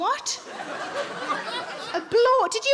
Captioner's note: audience laughing